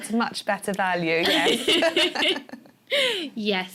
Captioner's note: laughter